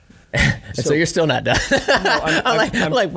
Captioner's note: laughing